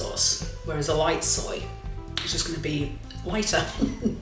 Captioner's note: laugh